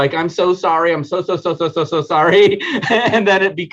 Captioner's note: laughing